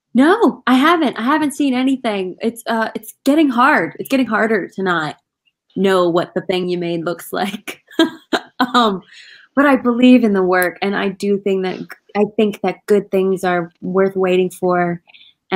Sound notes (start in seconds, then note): 7.6 laughing